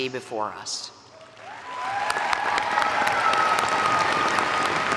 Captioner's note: all applaud